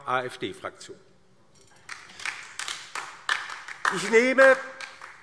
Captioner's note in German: Beifall DIE LINKE